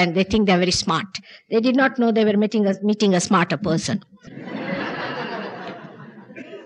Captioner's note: laughter